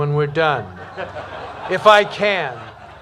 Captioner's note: laughter